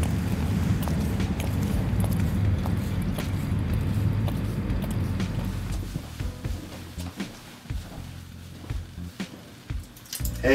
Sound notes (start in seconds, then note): 0.8 footsteps